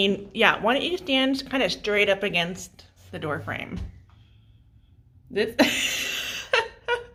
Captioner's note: laughs